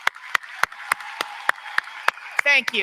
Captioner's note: applause